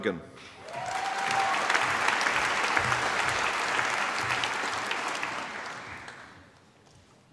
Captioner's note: applause